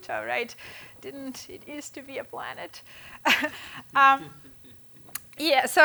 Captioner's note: laughing